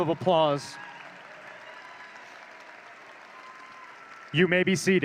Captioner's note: audience cheering